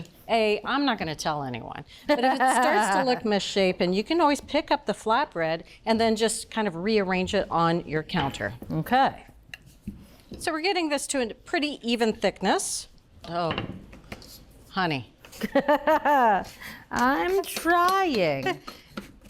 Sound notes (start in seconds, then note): 15.4 Julia laughs